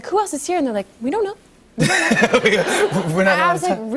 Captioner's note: laughter